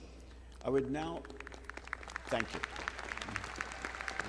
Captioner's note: all clapping